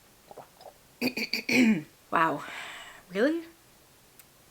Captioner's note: coughing; clearing throat